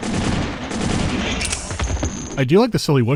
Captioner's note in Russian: гулкие выстрелы; клик-ву-ву-вущ